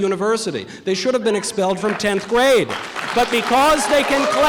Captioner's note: audience applause